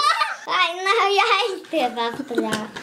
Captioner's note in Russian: детский смех